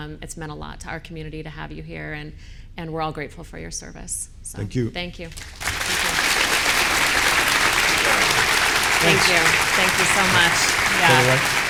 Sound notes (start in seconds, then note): 5.4 audience applauding